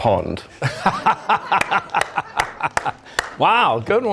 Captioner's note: laughter